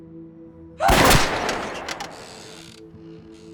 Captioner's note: screams